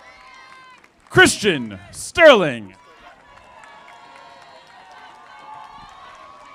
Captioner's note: audience applauding